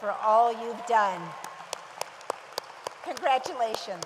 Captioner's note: audience applauds